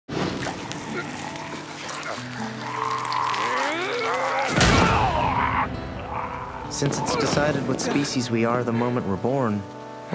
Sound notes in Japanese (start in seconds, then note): 0.3 レゴシとボスのうなり声